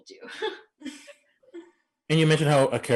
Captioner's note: chuckling